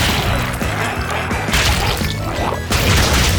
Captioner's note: energetic music continues; goo splatters